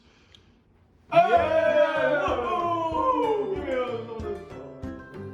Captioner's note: excited cajoling